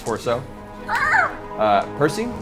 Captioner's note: eagle noises